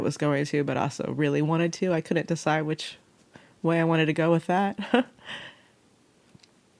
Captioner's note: laughs